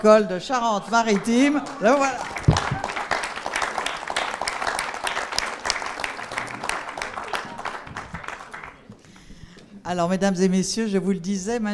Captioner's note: applause